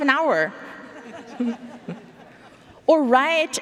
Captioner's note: audience laughing